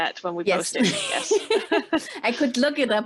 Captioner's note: laughing